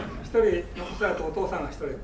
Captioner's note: students laughing; speaking in foreign language; coughing